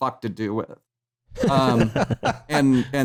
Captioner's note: laughter